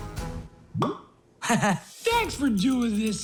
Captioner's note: chuckling